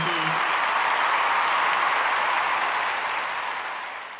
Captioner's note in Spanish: aplausos